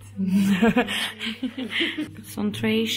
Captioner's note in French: rire